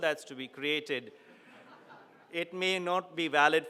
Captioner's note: audience laughing